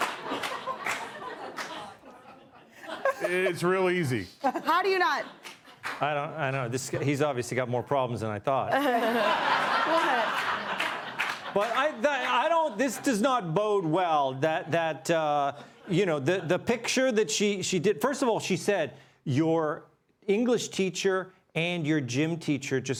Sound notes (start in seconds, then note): 1.9 laughter; 2.7 applause; 8.6 laughter